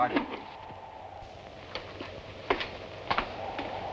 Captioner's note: wind whooshing